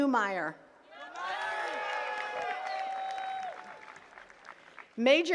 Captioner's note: attendees cheering and clapping